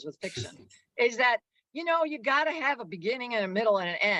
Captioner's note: laughs